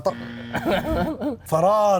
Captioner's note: laughs